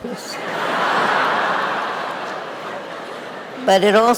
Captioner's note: audience laughing